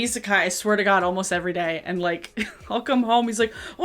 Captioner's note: chuckle